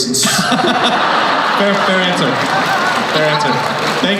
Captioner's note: laughing